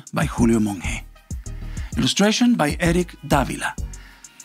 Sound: none

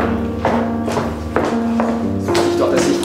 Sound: steps in the background

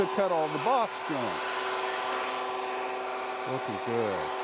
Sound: saw revving

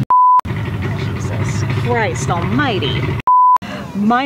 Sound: beep; beep

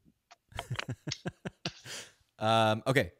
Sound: laughs

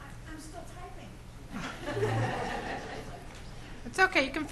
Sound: laughs

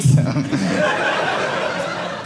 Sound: audience laughing

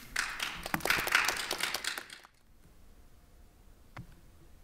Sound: audience applauds

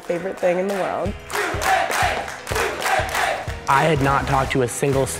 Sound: cheering

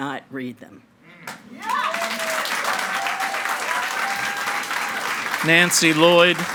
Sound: audience cheering and clapping

